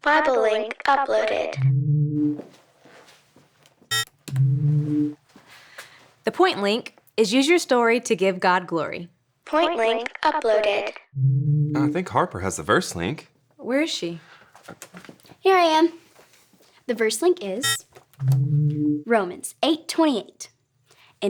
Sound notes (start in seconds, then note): 3.9 device whirs